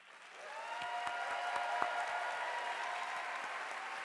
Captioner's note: audience applauding